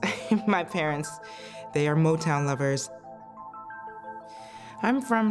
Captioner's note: laughs